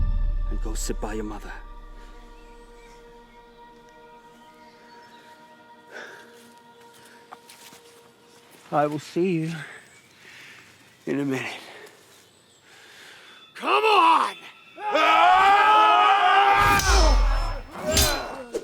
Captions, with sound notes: and go sit by your mother. (gentle music) (birds chirping) (gentle music) I will see you in a minute. (birds chirping) Come on. (both shouting) (swords clanging)